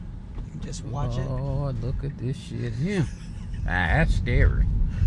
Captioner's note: laughs